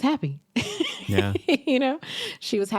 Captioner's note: laughs